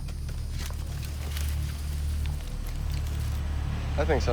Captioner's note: engine rumbling